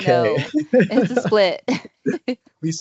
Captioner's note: brief laughter